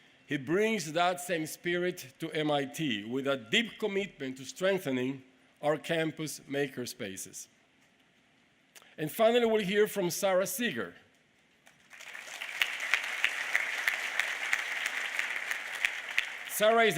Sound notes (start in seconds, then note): 11.6 applause